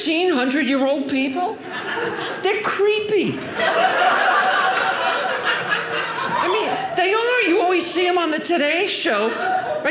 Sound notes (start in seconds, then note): 3.4 audience laughing